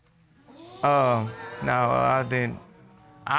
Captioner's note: audience exclaiming